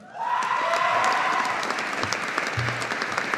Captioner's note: audience applauding